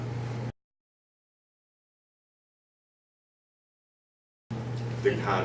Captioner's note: silence